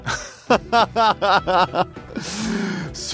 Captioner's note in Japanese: 笑い